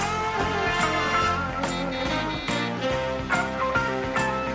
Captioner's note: horn Honking